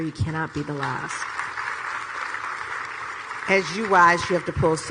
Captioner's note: audience clapping